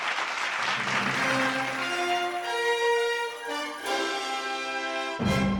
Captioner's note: audience applauding; dramatic music